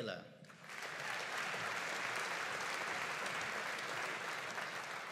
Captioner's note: audience applauding